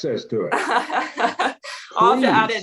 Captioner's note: laughing